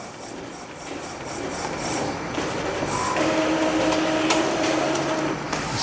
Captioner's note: printer machine noise